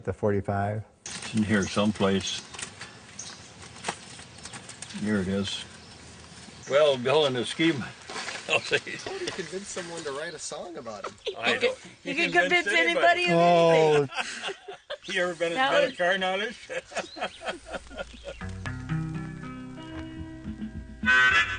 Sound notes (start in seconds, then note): 10.8 voiceover; 11.0 laughter; 14.8 voiceover; 18.4 laughs